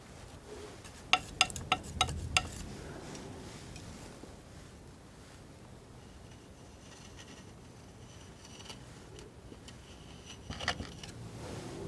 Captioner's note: tapping